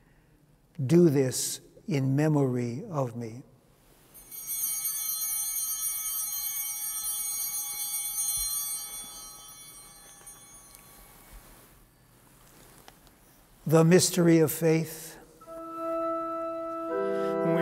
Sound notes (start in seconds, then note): 4.1 bell ringing